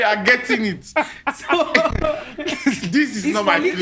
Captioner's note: both laugh